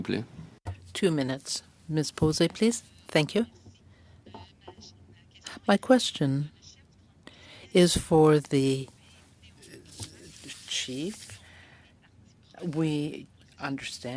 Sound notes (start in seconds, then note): 8.1 speaking french